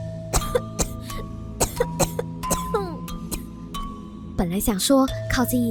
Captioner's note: intense coughing